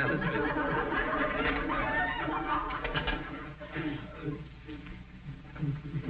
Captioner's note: audience snickering